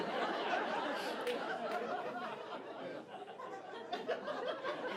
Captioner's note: audience laughing